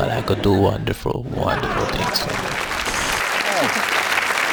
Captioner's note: applause